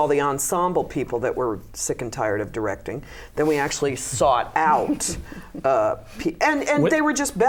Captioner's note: laughter